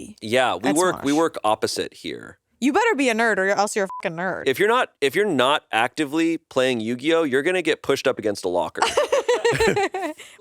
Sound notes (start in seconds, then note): 3.8 beep; 8.8 laughs